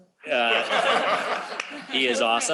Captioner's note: laughter